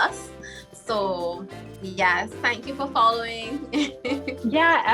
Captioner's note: laughs